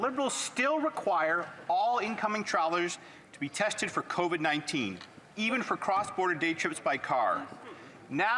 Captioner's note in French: voix de l'interprète